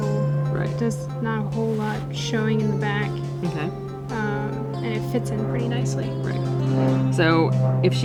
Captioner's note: airplane flying over again